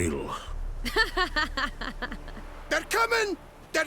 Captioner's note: laughs